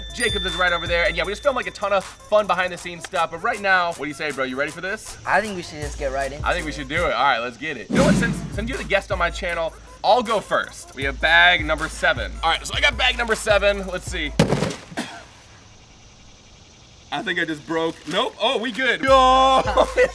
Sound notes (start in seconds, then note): 14.1 loud booming